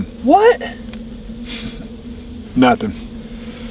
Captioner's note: scoffs